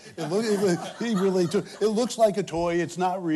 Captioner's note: laughter